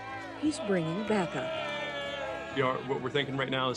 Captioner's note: crowd cheers